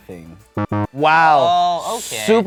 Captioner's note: buzzer